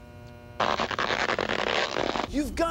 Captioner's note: creaking